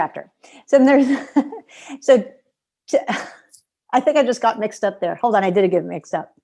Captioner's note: laughter